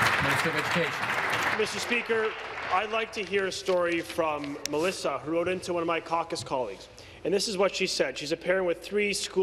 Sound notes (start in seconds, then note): 0.0 applause